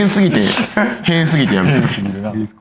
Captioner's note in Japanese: 笑い